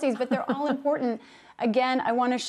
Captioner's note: laughter